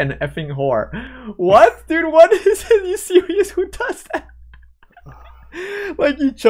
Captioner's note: laughs